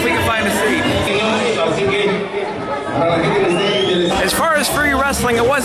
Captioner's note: indistinct background chatter